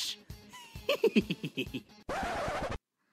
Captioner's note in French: Rigole